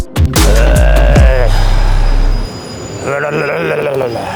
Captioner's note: growling